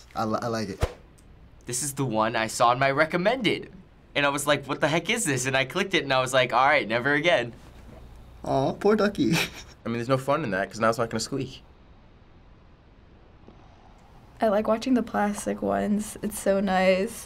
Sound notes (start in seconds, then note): 13.4 rubber duck hissing softly